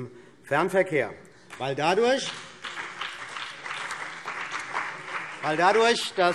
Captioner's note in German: Beifall CDU und BÜNDNIS 90/DIE GRÜNEN